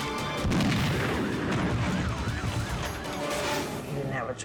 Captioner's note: gun firing